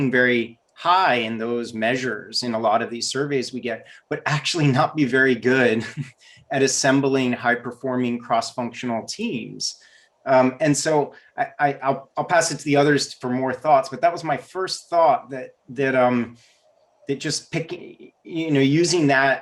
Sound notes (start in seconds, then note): 5.8 laughs